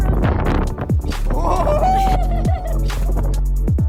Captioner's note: laughter